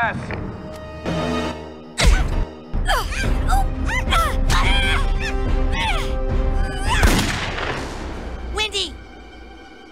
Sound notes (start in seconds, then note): 7.0 gunshot